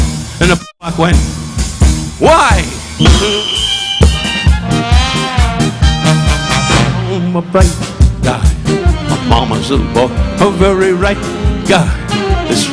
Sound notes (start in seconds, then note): 2.9 whistle blowing; 3.0 upbeat instrumental music